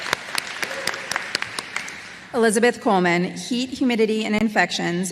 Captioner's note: applause